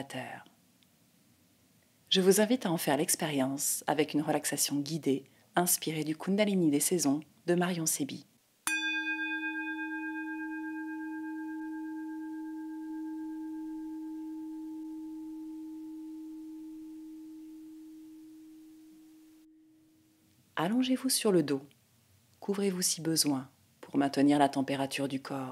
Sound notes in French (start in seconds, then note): 8.6 Bruit vibration de bol